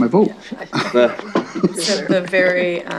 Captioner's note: chuckling